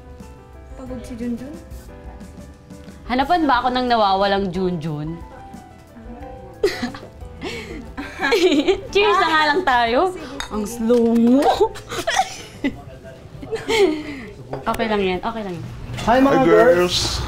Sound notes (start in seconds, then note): 6.6 laughing; 7.4 continuous Laughing; 11.7 both laughing